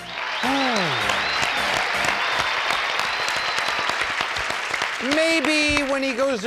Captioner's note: applause